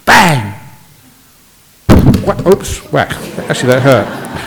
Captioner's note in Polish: śmiech